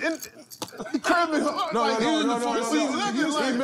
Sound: laughter; overlapping chatter

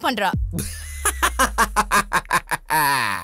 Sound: laughs

